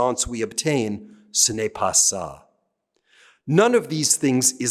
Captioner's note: speaking french